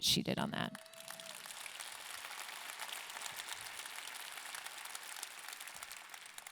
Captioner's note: audience clapping and cheering